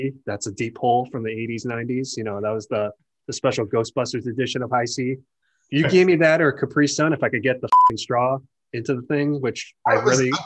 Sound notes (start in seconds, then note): 7.7 beep